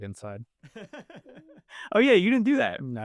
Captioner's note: laughing